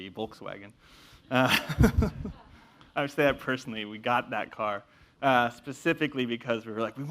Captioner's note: laugh